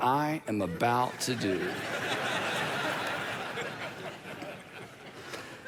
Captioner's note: congregation laughs